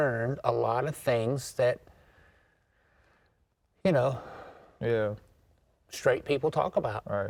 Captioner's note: sighs